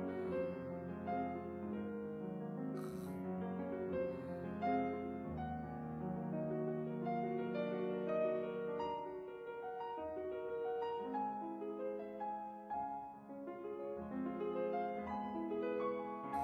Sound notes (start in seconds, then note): 2.7 sighs